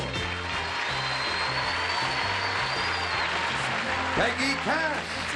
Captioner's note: applause